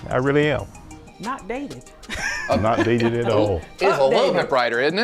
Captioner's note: laughs